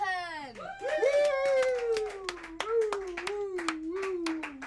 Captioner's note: all clapping